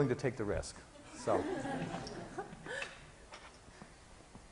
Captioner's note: class laughing